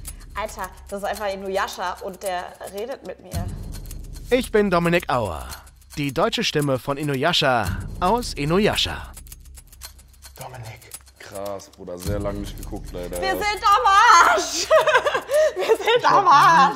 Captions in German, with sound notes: Alter, das ist einfach Inuyasha, und der redet mit mir. "Ich bin Dominik Auer." "Die deutsche Stimme von Inuyasha aus "Inuyasha". (bewundernd:) Dominik. Krass, Bruder, sehr lang nicht geguckt, leider. Wir sind am Arsch! Wir sind am Arsch.